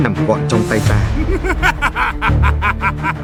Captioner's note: sly laughter